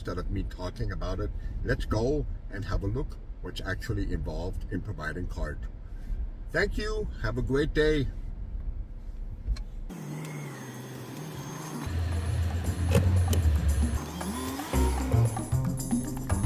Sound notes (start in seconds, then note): 9.9 car backing up; 12.1 transition music - instrumental